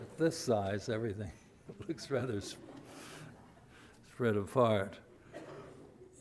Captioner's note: audience laughs